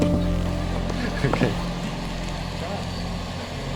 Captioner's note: laughing